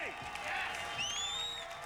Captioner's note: cheers